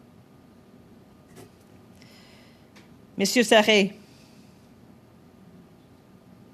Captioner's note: speaking French